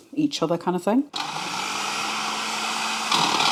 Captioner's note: food processor whirring